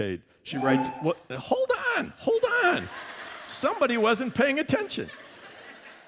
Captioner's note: laughter